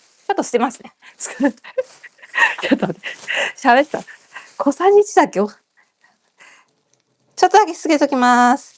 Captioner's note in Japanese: 笑い